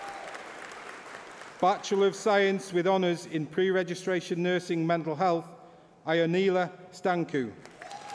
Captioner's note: applause